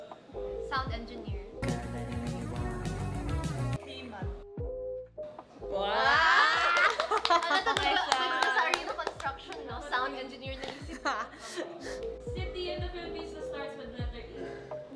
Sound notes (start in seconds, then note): 1.5 montage music; 6.0 cheering & clapping